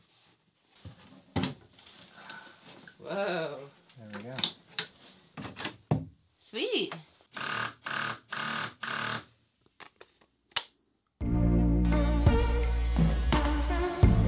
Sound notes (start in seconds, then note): 7.3 drilling; 11.2 upbeat music